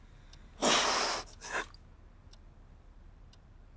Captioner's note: crying